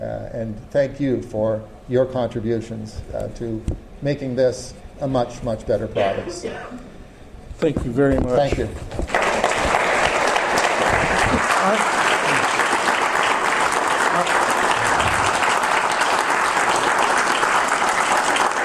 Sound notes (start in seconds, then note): 9.0 audience applause